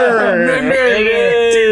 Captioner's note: laughing